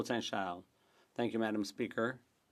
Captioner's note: speaking French